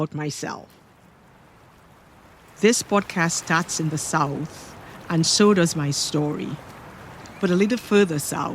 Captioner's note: gentle ocean waves